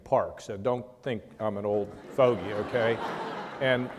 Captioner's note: laughter